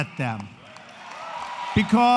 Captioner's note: applause